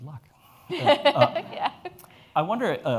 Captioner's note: laughs